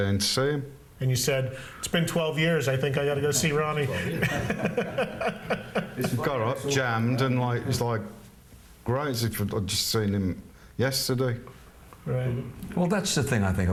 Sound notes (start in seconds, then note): 3.7 laughs